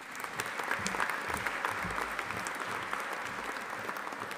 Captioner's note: audience applauding